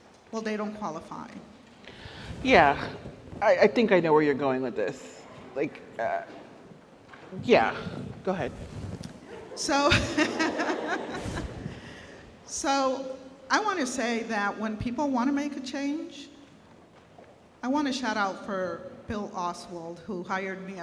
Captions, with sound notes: Well, they don't qualify. - Yeah, I think I know where you're going with this, like, yeah, go ahead. - So... (laughs) So... I want to say that when people want to make a change, I want to shout out for Bill Oswald who hired me